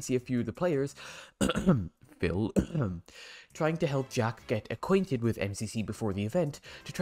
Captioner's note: cough